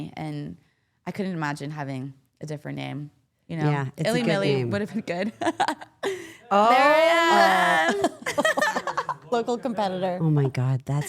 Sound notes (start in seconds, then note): 7.0 laughs; 7.2 all laughing